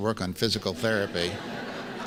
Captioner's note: laughs